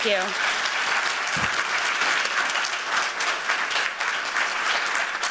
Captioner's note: applause